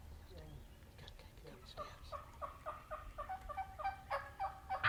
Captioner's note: turkeys gobbling